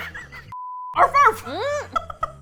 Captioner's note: hysterical laughter; laughs